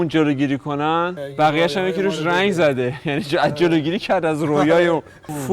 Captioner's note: laughter